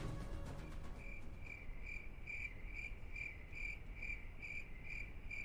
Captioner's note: cricket chirping